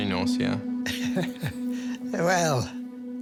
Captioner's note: chuckles